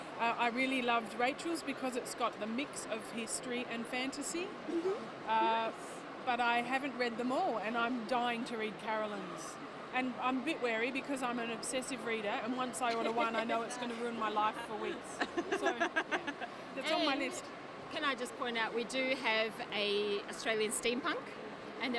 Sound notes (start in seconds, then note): 15.2 everybody laughs